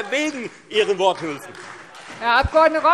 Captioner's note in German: Beifall Freie Demokraten